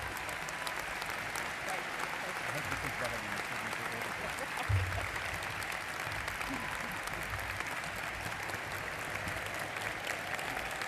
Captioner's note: applause